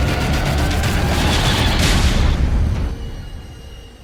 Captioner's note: explosion